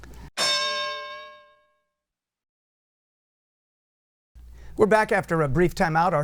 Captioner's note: bell